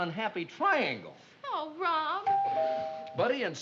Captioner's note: doorbell rings